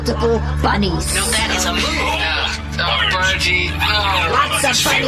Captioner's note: exasperated